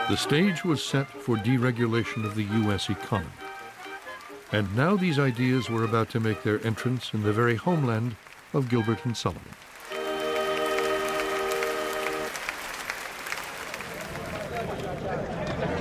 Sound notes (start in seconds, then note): 10.2 audience applauding